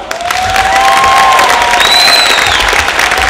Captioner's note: applause